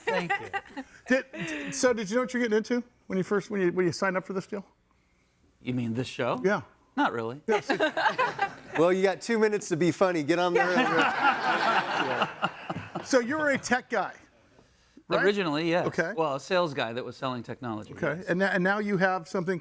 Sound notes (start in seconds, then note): 10.5 all laughing